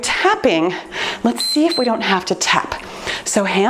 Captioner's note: timer beeps